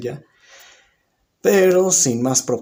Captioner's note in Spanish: Silencio